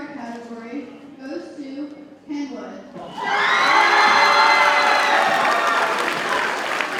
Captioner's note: audience cheers and applauds